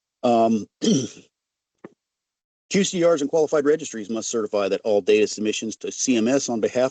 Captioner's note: clearing throat